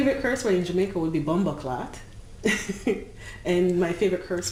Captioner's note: laughing